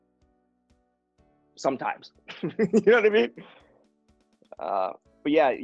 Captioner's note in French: rire